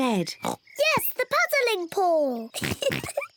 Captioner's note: oinks; giggles